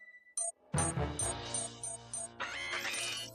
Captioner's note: alarm beeping